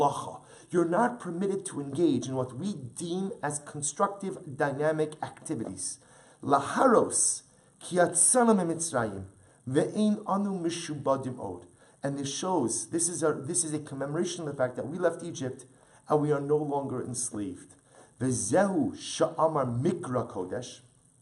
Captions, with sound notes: You're not permitted to engage in what we deem as constructive dynamic activities. [Hebrew] And this shows. This is a this is a commemoration of the fact that we left Egypt and we are no longer enslaved. [Hebrew]